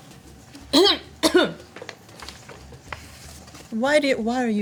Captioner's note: coughing